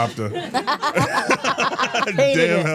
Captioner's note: all laughing